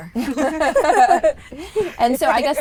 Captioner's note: group laughs